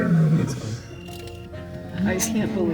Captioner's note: lion grunts